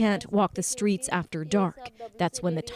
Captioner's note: speaking Foreign Language